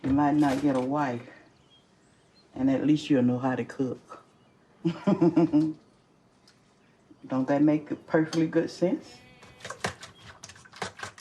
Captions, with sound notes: you might not get a wife and at least you’ll know how to cook. [laughter] Don’t that make perfectly good sense?